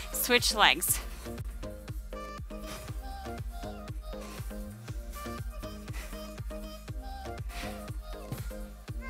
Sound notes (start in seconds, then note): 1.6 breathes; 1.6 soft upbeat music